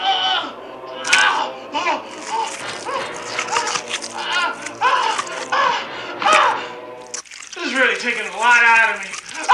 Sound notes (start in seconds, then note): 2.3 more squishes & groans; 6.1 splat